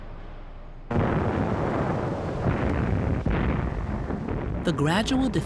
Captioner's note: explosions booming